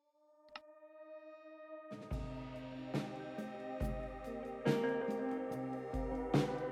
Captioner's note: laughing